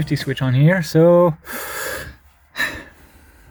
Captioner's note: deep breath